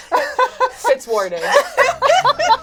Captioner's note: laughs